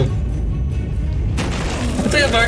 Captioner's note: the ground rumbles